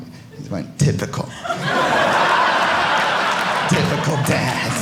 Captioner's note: audience laughing